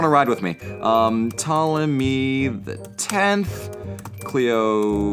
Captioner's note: typing